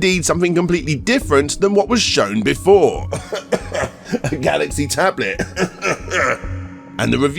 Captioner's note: cough